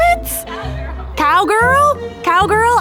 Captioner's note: laughs